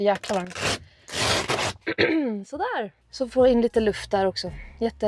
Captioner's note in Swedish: harklar sig